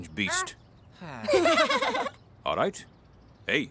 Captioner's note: both Laugh